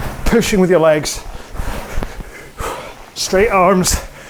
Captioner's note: breathing heavily